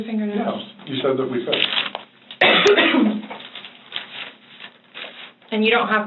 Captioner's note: paper rustling